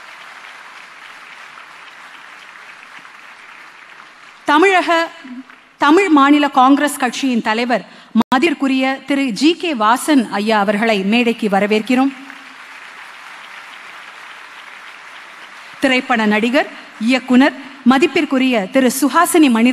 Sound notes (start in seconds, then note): 12.1 applause; 12.2 cheering